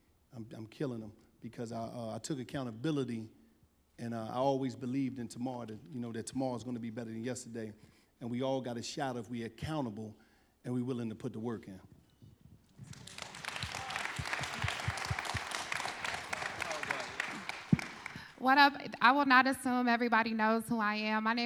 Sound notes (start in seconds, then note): 12.7 applause